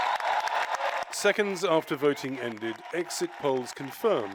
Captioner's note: cheering and applause